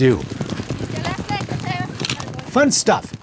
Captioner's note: hooves thudding